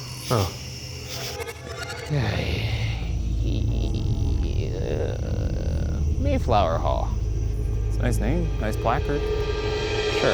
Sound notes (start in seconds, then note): 2.0 groans